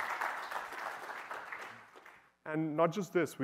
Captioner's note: applause